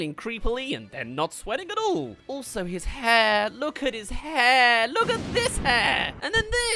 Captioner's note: big explosions